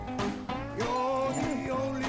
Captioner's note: doorbell